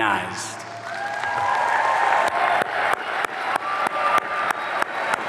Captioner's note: audience cheering